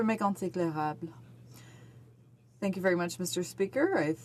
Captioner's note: speaking French